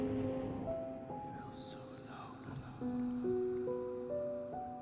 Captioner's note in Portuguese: sussurros